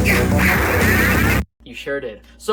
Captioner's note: death sound